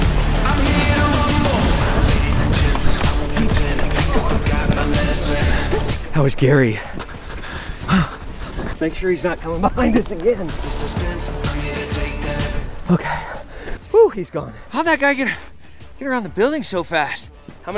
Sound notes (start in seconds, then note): 12.2 singing; 13.0 breathing deeply